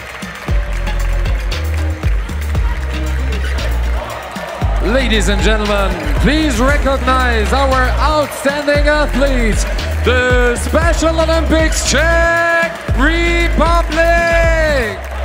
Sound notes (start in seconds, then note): 0.0 applause; 1.1 team cheering loudly